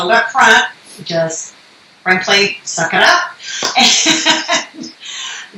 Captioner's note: laughs